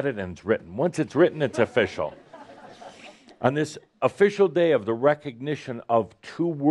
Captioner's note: laughter